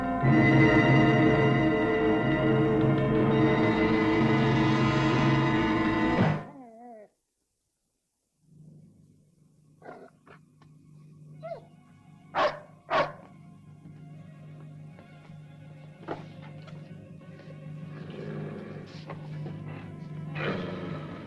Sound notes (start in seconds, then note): 6.4 dog whines; 12.3 dog barking; 15.3 tense music; 17.8 dog growling